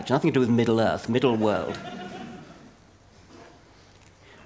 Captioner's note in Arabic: ضحك